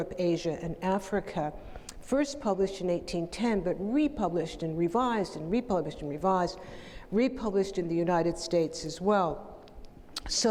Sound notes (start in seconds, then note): none